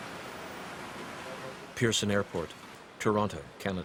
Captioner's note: voiceover